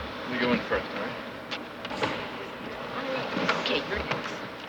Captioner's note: none